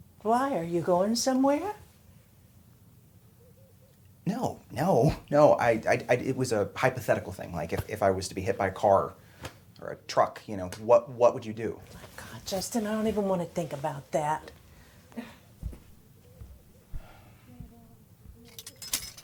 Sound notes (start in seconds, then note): none